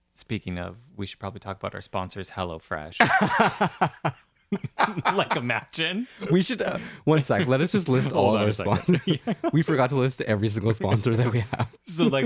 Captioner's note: laughing